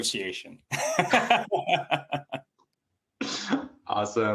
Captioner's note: laughter